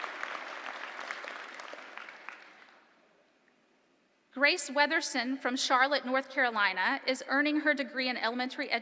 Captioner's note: applause